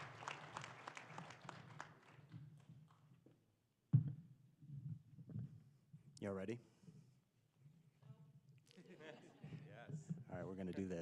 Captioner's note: applause